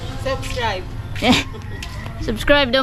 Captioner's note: supportive chuckle